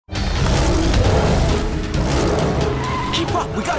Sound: roaring

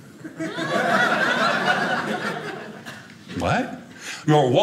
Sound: audience laughing

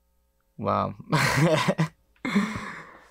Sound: laughs

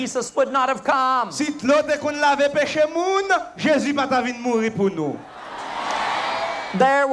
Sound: crowd cheering

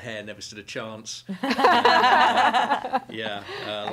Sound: laughter

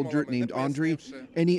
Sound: speaking foreign language

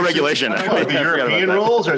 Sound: laughter

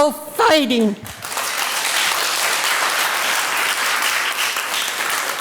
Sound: audience applauding

